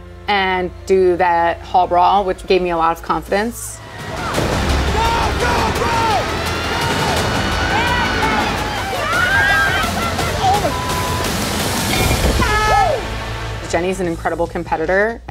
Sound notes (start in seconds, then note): 3.6 intense music; 6.6 challengers yelling; 11.3 beep; 12.1 intense music